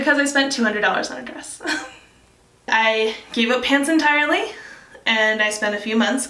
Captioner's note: laughs